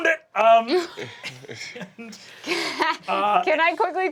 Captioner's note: cast laughing